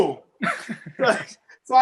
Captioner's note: laughing